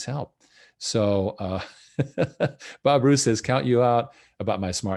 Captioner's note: laughs